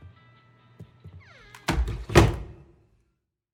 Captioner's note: door closes